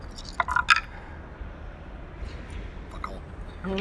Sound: dice rattle

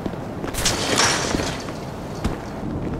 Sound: fence creaking

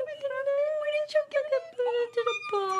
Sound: squealing

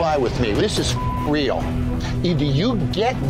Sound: beeping

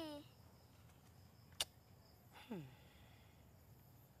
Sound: clicks tongue

